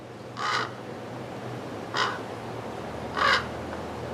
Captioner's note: crows chirping